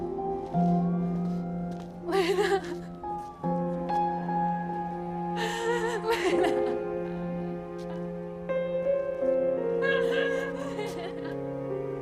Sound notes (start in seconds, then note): 5.4 sobbing